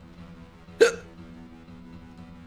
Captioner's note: hiccup